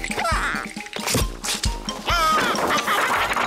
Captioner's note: quacks